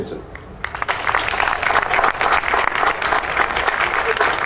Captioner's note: audience applauding